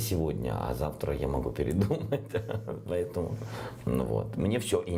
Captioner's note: laughs